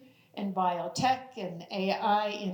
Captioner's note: none